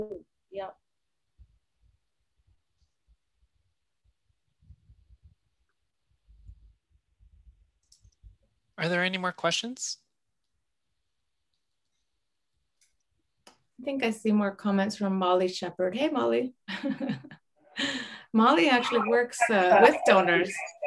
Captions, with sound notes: Yeah. Are there any more questions? I think I see more comments from Molly Shepherd. Hey, Molly. [CHUCKLES] Molly actually works with donors.